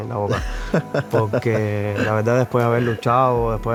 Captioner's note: laughter